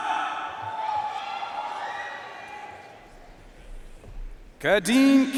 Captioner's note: audience cheering and applauding